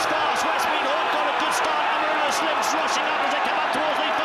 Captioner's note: crowd roaring